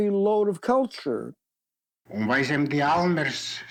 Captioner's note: in Yiddish